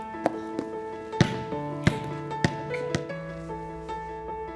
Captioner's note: basketball bouncing